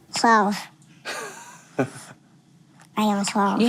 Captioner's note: interviewer laughs